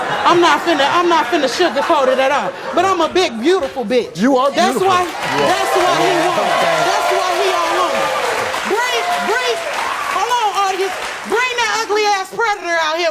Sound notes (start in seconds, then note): 4.6 audience cheers